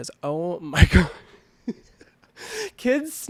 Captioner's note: laughing